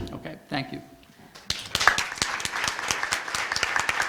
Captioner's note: applause